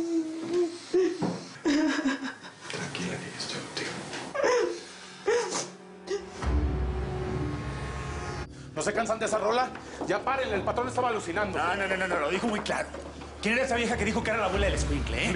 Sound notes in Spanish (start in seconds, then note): 1.4 Sollozos; 5.2 Sollozos